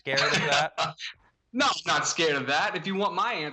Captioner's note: laughter